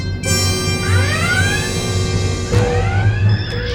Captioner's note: red alert klaxon